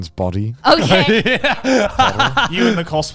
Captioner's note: all laughing